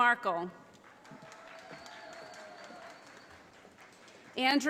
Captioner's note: audience applauding